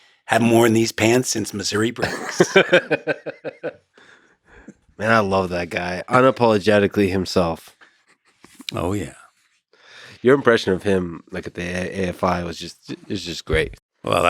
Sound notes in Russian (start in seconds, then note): 1.8 Лекс смеется